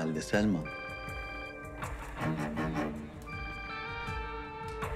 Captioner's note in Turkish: Telefon çalıyor